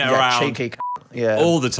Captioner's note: beep